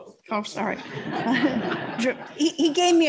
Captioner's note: laughter